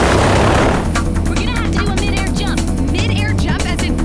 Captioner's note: airplane sound